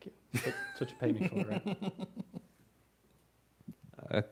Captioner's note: laughing